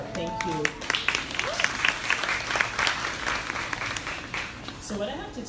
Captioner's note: crowd applauding